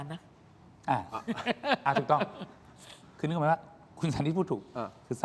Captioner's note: laughter